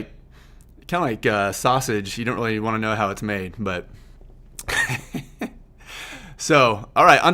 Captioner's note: laughs